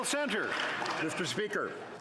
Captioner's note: some Applause